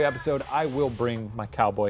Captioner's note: cat hisses